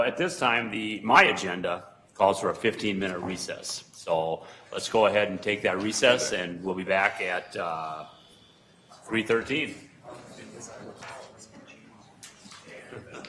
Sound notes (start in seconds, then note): 10.3 murmuring